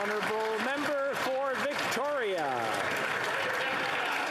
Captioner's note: some Applause